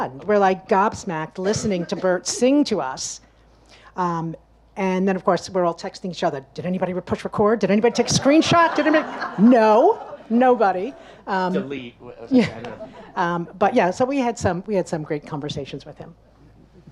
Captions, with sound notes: We're like gobsmacked listening to Burt sing to us. And then of course we're all texting each other. Did anybody push record? Did anybody take screenshot? (audience laughs) Did any... No? Nobody? - Delete. - Yeah. (laughs) But yeah, we had some great conversations with him.